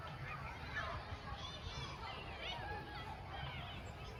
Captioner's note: kids playing and crickets